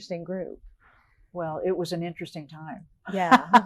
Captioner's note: laughs